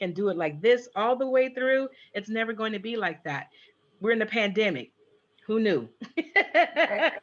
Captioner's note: laughs